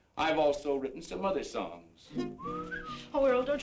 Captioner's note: whistles